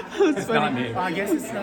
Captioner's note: laughing